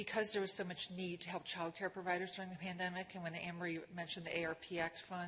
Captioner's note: none